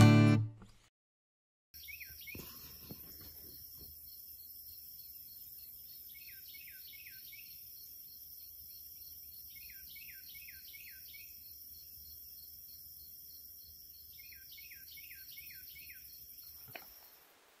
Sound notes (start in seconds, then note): 2.0 birds tweeting; 2.0 crickets chirping